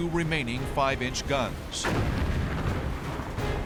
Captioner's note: explosions